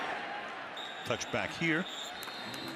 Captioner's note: whistle blows